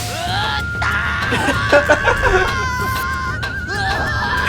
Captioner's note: a lot of yelling